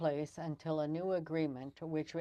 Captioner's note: speaking french